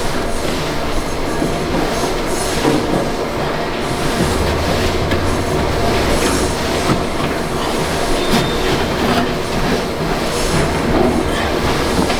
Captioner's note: engine Revving